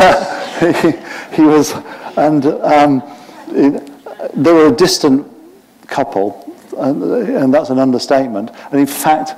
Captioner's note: laughter